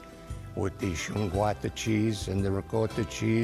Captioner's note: speaking Italian